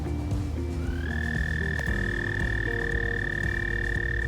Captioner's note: frog trilling